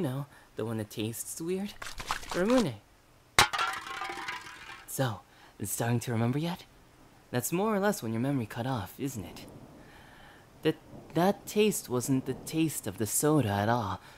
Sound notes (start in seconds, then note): 1.7 soda shaking; 3.4 can clatters to the ground